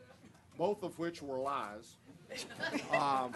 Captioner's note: laughter